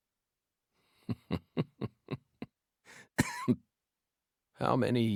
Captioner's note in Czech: temný smích